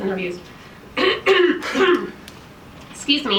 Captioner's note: clears throat